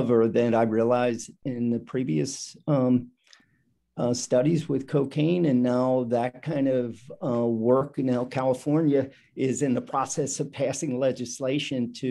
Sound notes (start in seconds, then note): none